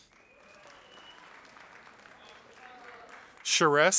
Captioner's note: audience applauding